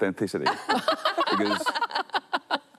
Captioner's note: laughter